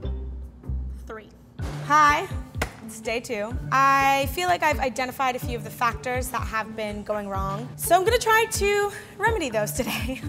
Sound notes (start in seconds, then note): none